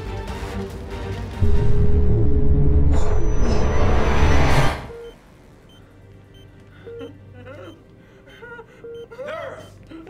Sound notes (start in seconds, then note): 4.9 monitors beep; 8.5 panicked sobbing